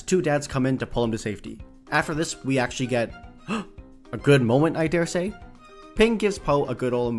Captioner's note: gasp